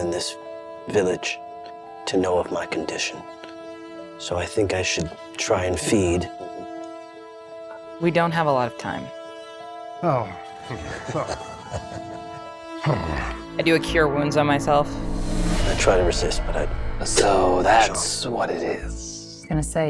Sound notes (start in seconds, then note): 10.6 chuckles; 10.8 groans